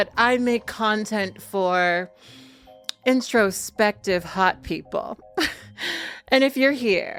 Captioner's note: chuckles